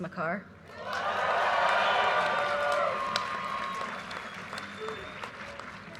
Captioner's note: audience cheers and applause